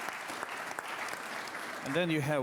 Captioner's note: applause